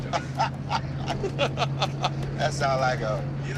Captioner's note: laughs